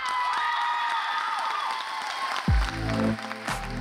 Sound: cheering, applause

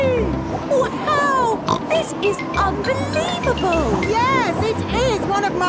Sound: snorts

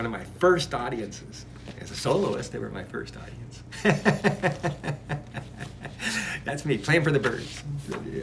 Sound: laughs

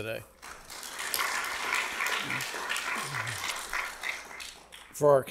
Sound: audience clapping

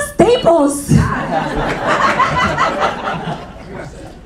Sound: audience laughing

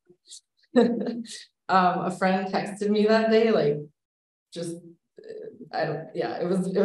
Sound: laughs

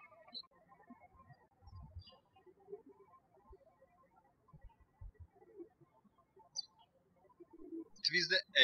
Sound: birds chirping

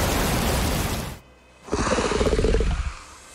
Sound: water falling; growling; screeching

